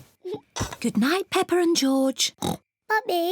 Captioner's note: oinks